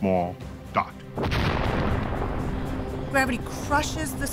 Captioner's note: explosion roars